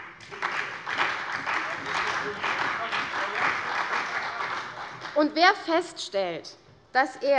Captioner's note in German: Beifall bei der CDU und dem BÜNDNIS 90/DIE GRÜNEN